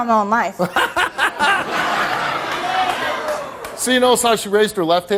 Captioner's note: audience laughs; Steve laughs